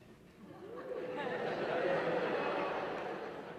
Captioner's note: laughter